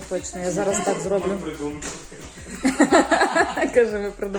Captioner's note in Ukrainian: сміх